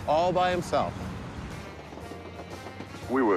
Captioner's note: train wheels clacking